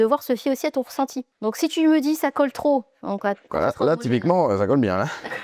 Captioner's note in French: rires